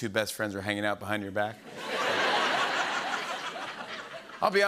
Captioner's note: laughter